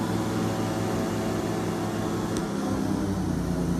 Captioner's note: airboat sounds